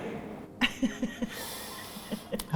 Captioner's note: laughing